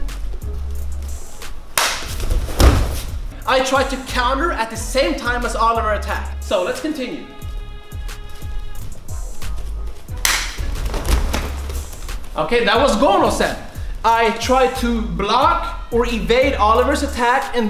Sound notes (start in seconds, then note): 1.8 mom claps; 10.2 mom claps